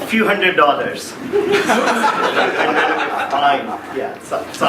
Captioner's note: laughing